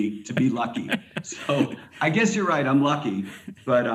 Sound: laughs

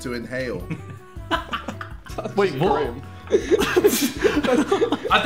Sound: laughing

